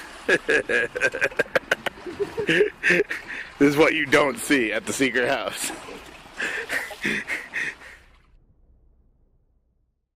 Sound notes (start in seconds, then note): 0.2 cameraman laughing; 6.3 breathing heavily